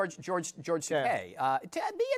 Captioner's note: stammers